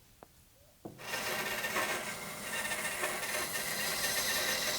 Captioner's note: bandsaw screeches